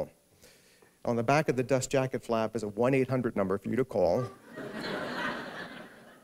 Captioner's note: laughter